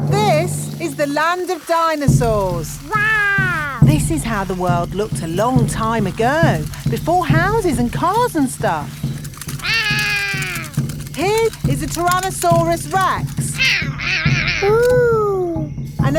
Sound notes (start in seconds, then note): 9.6 roaring; 13.6 roaring